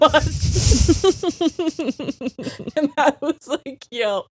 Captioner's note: both laughing